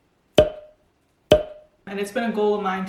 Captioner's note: pop